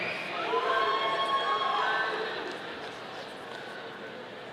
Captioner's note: audience cheering